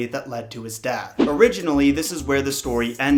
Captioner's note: wind whooshing